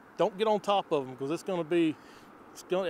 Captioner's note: inhales